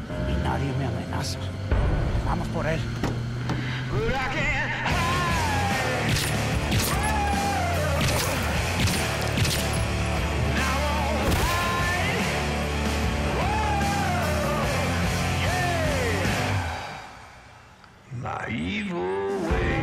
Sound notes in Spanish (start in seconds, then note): 6.0 Disparos